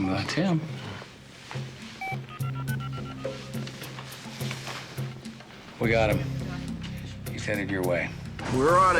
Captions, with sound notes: - Hmm, that's him. (phone auto-dialing) We got him. He's heading your way.